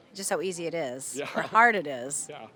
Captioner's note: laughing